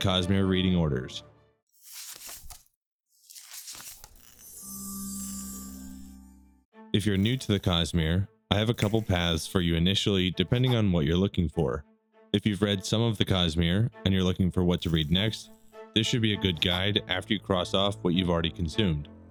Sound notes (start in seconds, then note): 3.1 pages turning; 4.5 shimmering